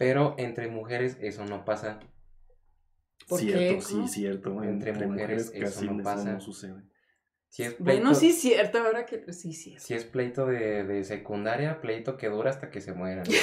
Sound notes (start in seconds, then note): 5.2 guys agreeing